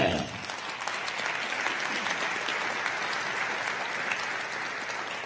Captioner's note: crowd applauding